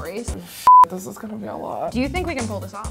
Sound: beep

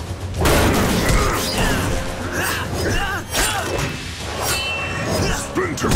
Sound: grunting

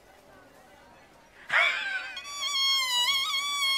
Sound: sobbing

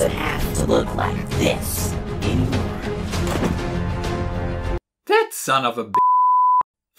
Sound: beep

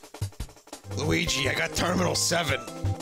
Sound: imitates DiC Mario

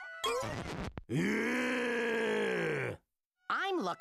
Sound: growling

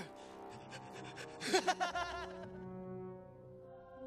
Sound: laughs

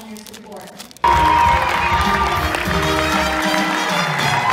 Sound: applause; music

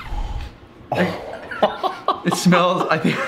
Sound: laughing

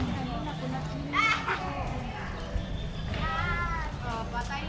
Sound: laughs

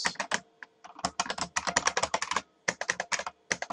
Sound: keyboard clicks

